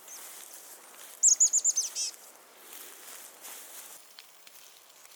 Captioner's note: birds chirping